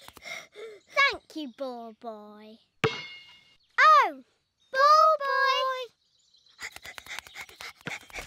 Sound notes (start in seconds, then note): 6.6 panting